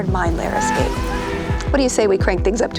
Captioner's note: people screaming